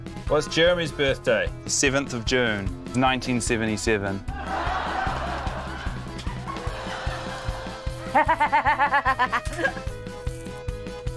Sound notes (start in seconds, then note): 4.4 laughter; 8.1 laughs